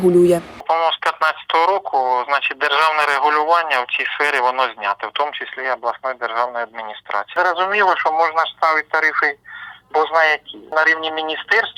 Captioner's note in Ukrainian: коментар телефоном